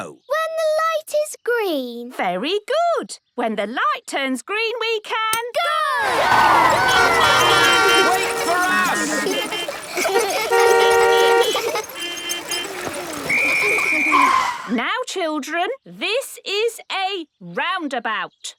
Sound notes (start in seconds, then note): 7.3 beeping; 9.2 laughter; 9.8 beeping; 9.8 laughter; 13.2 whistle blowing